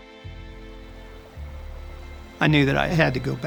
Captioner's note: reflective music; water rustling